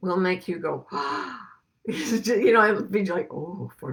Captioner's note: gasps